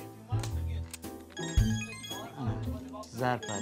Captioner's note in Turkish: Telefon zili sesi